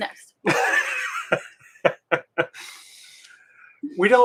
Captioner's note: laughing